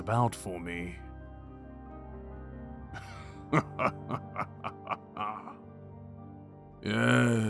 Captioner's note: he chuckles